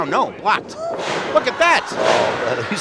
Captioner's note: thud